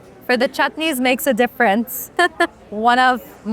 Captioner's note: laughs